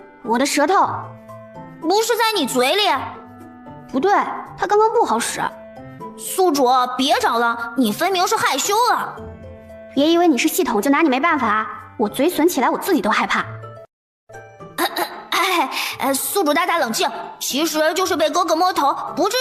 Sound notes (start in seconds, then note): 14.7 cough